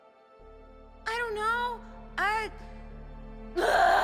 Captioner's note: screams